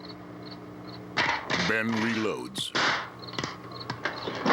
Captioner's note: shotgun cocking